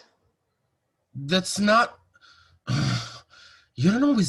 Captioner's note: sighs